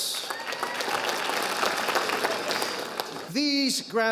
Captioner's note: audience applauding